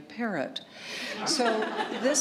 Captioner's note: laughter